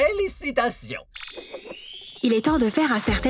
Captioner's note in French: bruit de baguette magique